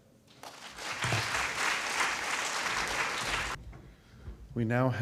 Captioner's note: applause